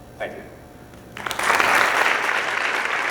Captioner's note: applause